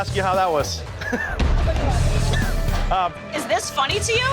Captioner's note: chuckling